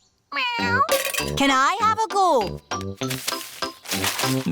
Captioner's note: meows